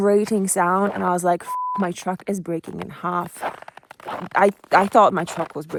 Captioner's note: beep